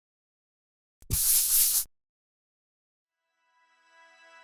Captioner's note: eraser erasing